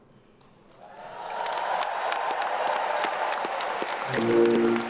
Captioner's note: attendees cheering; everyone applauding